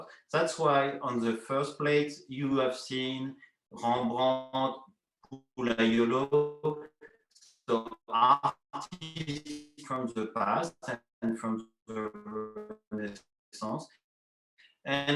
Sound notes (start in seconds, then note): 3.0 foreign language; 7.6 technical noise